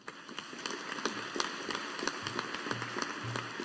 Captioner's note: audience applauding